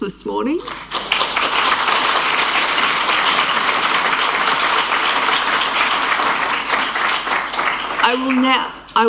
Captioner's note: applause